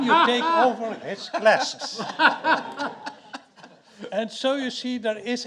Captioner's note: audience laughing